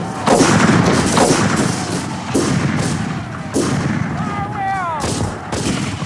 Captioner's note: guns bang; shouting